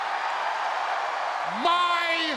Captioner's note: crowd cheering